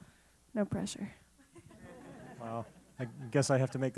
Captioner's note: laugh